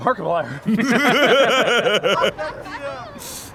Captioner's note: laughing